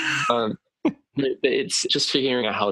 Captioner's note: laughter